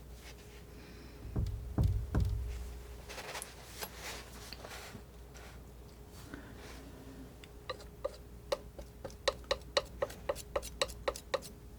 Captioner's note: tapping